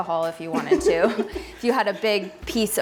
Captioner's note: laughs